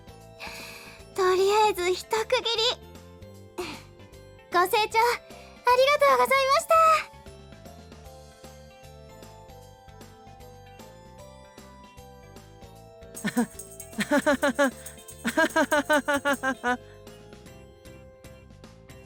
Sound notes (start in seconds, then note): 13.2 laughs